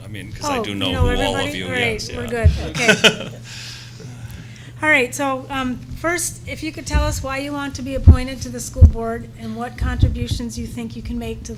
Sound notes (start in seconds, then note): 2.6 laughter